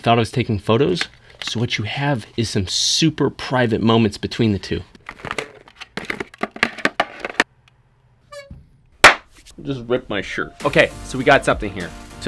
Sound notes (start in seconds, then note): 9.0 hands smack together